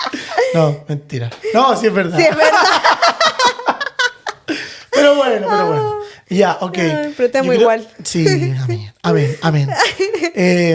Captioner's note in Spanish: risas